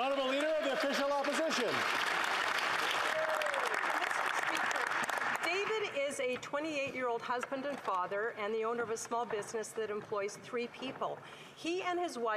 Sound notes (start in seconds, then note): 1.5 speaking French